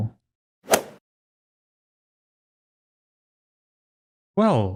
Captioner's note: golf ball hit sound effect